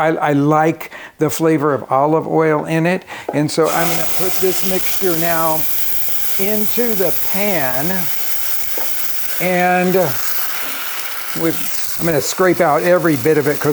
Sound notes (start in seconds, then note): 7.6 blender whirring